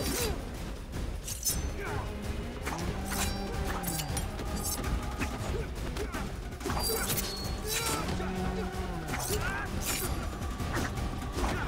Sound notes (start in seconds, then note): 7.6 both continue grunting